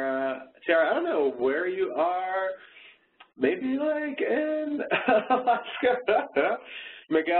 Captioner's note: laughing